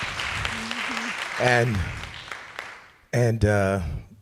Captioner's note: applause